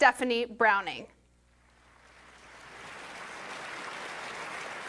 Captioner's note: applause